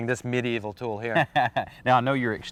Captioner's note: laughs